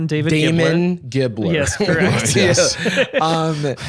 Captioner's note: laughs